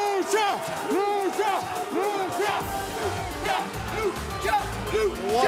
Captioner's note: fans chanting